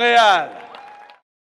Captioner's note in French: Applaudissements